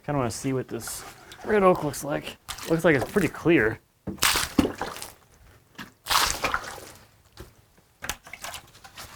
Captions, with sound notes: Kind of want to see what this red oak looks like. It looks like it's pretty clear. (water splashing)